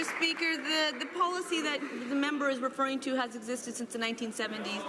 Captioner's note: applause